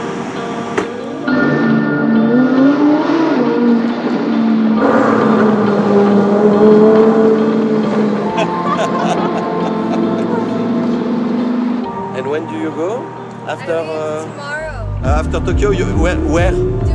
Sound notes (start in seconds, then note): 1.2 engine roaring; 8.3 laughter